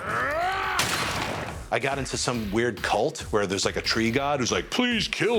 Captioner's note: roars; gunshot